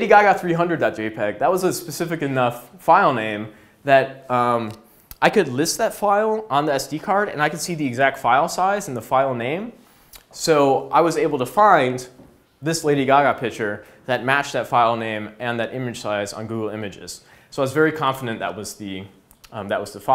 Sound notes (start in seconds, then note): none